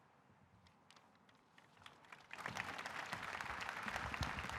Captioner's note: audience applauding